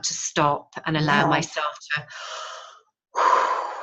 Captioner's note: breaths in and out